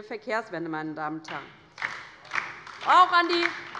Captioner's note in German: Beifall bei der LINKEN